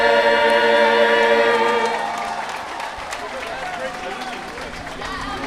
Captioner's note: audience applauding